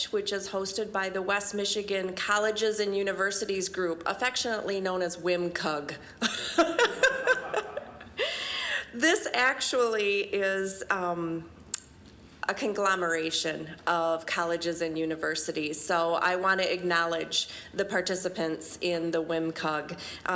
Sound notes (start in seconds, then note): 6.2 laughing